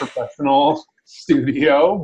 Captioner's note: laughing